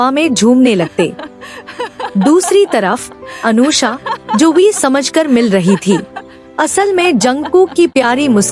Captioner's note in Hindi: हंसी